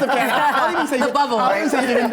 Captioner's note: all laughing